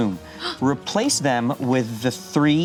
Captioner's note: gasps